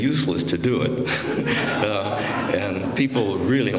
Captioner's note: laughter